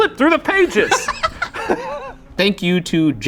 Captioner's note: laughing